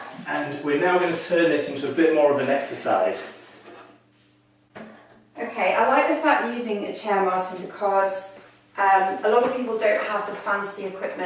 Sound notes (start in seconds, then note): 3.4 chair clunking